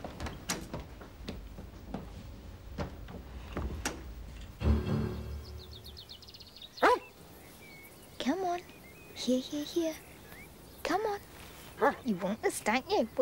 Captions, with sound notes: (dramatic music) (dog barks) Come on, here, here, here, come on. You want this, don't you?